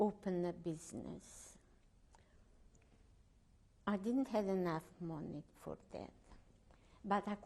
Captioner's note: pauses for 3 seconds